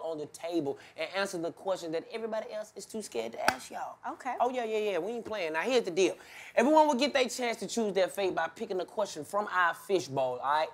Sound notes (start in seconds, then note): none